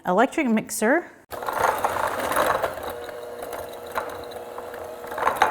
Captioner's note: electric mixer buzzing